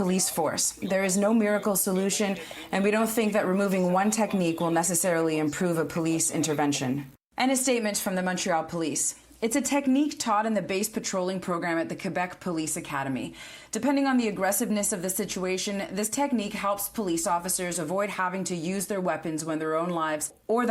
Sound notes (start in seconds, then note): 3.3 speaking French